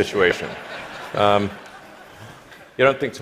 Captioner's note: laughter